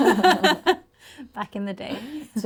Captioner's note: laughter